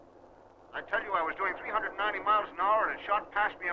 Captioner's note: radio